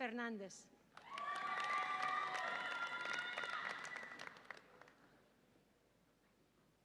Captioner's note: audience applauds and cheers